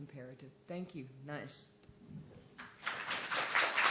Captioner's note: speaking in Cheyenne language; applause